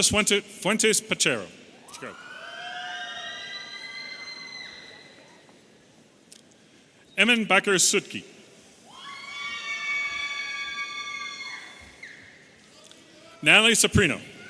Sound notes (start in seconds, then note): 2.0 audience cheering